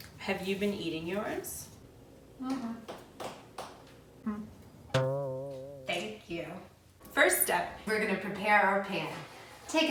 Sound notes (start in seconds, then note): 3.2 marshmallows plopping; 4.9 spring bounces